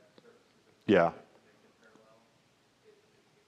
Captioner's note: chuckles